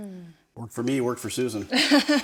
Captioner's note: hosts laugh